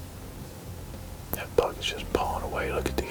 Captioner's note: whispering